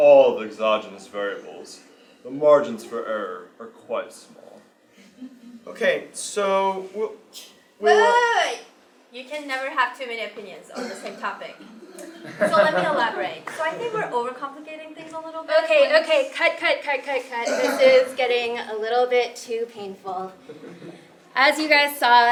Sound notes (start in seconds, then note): 11.9 laugh